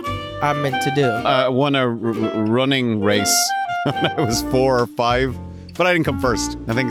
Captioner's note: chuckles